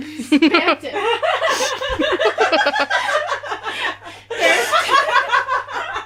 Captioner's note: laughter; even more laughter